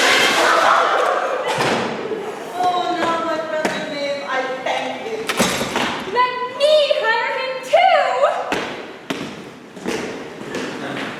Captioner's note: Oswald trips loudly offscreen